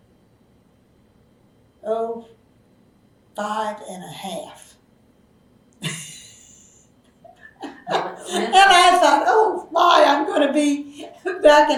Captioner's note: laughs